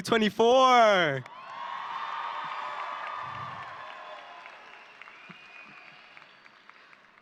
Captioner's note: audience cheering and applauding